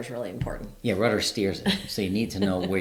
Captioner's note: laughing